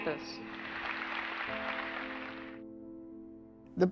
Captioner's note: applause